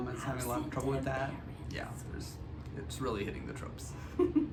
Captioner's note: whispers